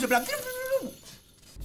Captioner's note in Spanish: Emocionado